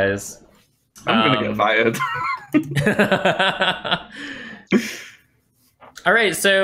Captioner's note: laughter